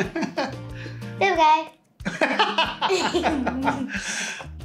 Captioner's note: laughs